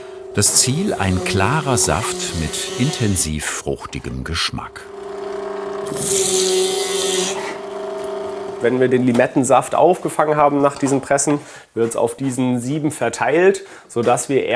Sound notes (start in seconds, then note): 4.6 whirring; 5.4 higher whirring